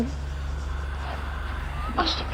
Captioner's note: scoffs